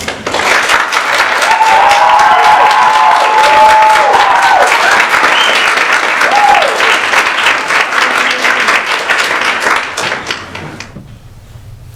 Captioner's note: applause